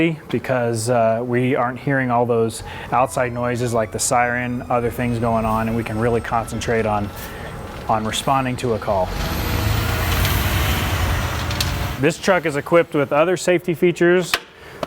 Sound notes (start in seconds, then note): 9.4 truck engine revving